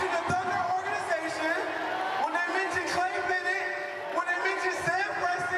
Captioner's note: applause